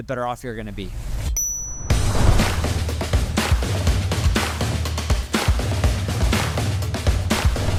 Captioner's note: bell dinging; lively music